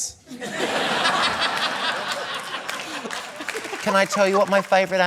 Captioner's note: laughter